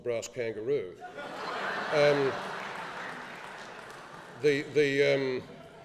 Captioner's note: laughing